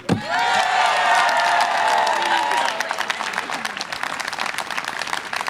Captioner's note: audience applause and cheer